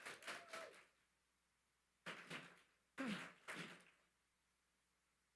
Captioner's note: attendees applauding